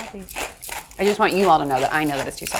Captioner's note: spice grinder grinding